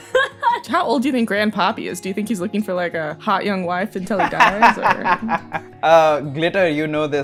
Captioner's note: laughter; laughter